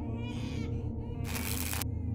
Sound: electric spark

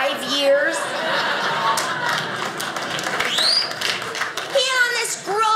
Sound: audience laughing

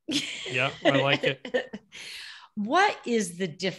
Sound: laughing

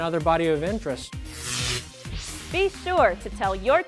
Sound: sound Effects

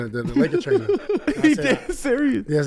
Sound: laughs

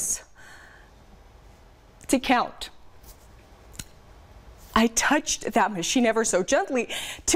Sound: silence

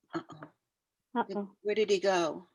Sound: audio cut out

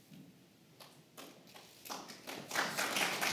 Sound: applause

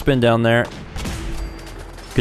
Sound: blam!

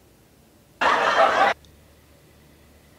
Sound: laughter

